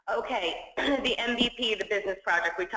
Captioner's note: cough